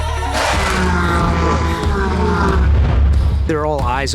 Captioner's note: tense music; engines revving